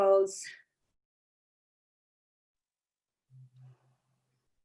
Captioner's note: silence